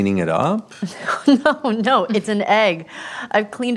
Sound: laughing

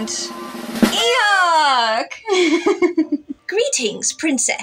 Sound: drumroll; confetti Horn; laugh

